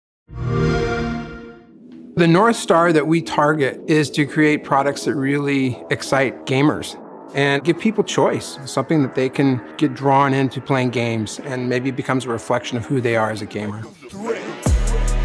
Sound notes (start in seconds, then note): 0.3 xbox sound; 3.4 electronic music playing